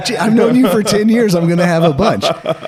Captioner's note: laughing